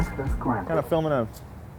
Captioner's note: robot Voice